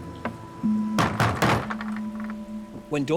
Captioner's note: door bangs